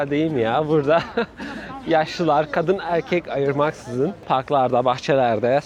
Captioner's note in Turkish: kahkaha